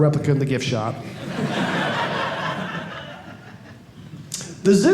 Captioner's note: audience laughing